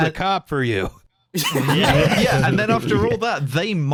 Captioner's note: laughter